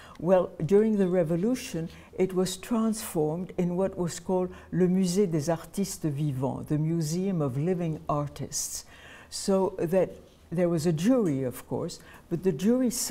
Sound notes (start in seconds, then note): 5.6 french